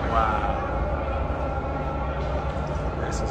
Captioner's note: chanting